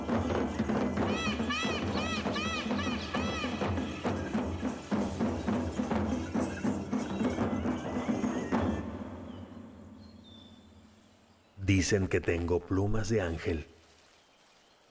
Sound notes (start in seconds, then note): 0.0 música con tambores; 1.1 graznidos; 4.9 música con tambores